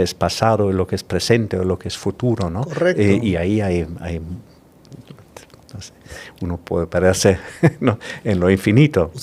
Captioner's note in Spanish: risas